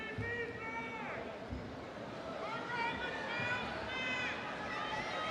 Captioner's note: audience cheering